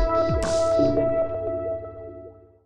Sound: electronic shimmer

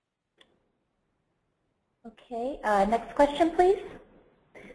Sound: silence

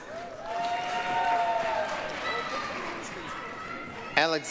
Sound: applause, cheering

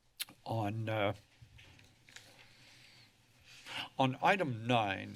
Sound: paper rustling

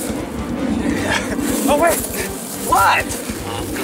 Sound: chuckles

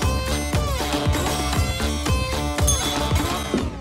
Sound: bell dings

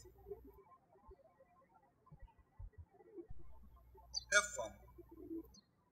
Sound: birds chirping

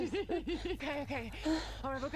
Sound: Beth laughs

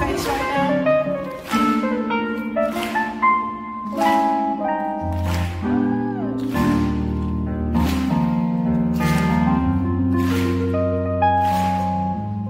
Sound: audience claps while piano plays

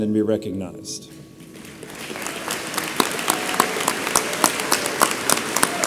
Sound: audience applauds

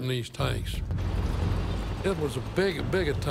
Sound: tanks rumbling

